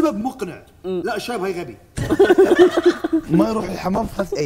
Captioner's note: laughs